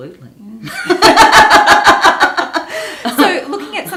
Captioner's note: both laughing